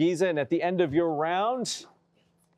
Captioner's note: none